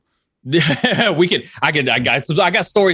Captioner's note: laughs